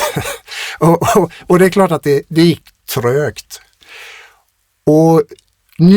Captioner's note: laughter